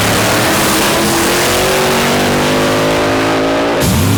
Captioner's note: throttles growling; cars roaring